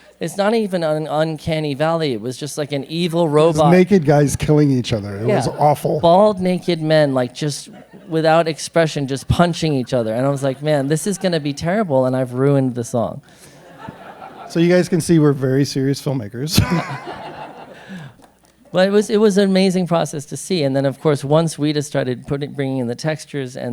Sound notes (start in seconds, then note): 16.4 laughs